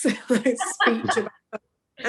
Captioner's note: laughs